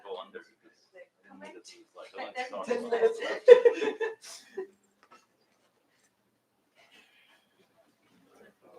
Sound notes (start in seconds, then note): 3.0 laughter